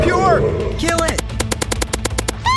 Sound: gunshots firing; screams

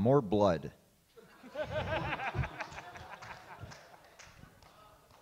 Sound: laughs

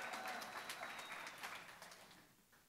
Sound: applause

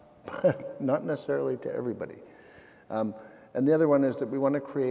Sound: laughing

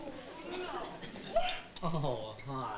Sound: kathy sobbing

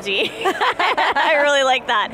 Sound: laughing

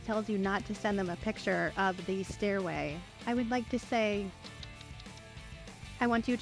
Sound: clicks tongue

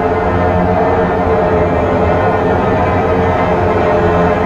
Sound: rumbling intensifies

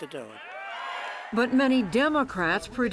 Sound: cheering and applause

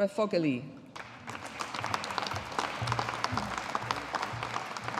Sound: audience applauding

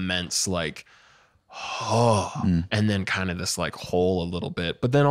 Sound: exhales

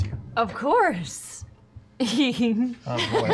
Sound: giggles

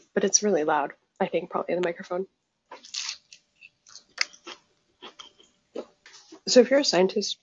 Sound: eating noises

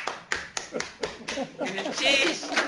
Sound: applause; laughter; non-english speech

